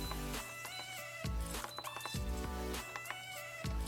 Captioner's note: beeping